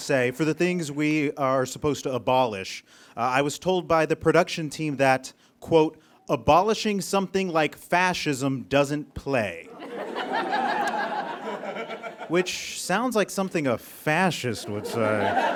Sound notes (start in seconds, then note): 9.8 audience guffaws; 14.4 audience laughs; 15.3 spectator whoops